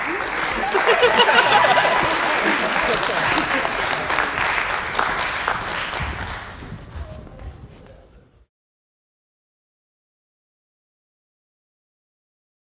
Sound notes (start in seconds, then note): 0.0 audience laughs and claps; 4.7 audience claps